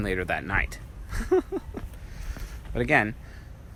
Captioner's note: laughs